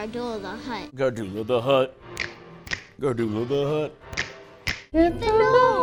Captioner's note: snap snap